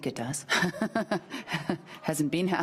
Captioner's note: laughing